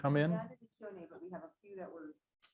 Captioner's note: speaks faintly